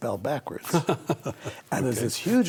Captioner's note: laughs